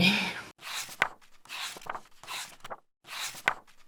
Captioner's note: pages turning